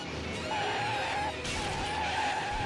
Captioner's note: breaks screeching